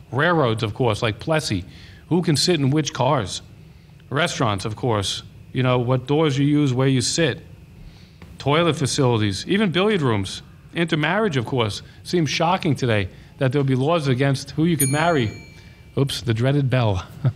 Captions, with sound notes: Railroads, of course, like Plessy, who can sit in which cars. Restaurants, of course, what doors you use, where you sit, toilet facilities, even billiard rooms, inter-marriage of course. Seems shocking today that there will be laws against who you could marry. (bell dings) Oops, the dreaded bell.